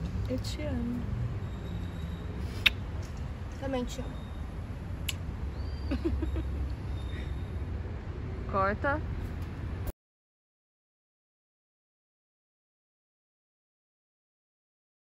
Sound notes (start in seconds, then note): 2.5 smack of kiss